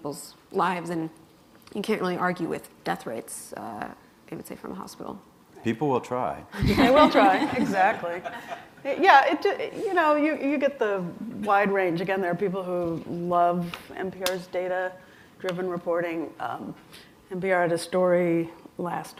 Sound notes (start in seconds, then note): 6.5 laughter